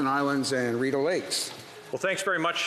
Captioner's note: speaking French